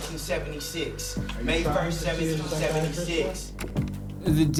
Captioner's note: indistinct chatter